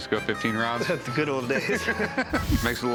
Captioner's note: laughter